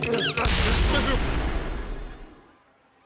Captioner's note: explosion booms